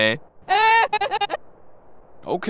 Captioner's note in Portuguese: Risada sádica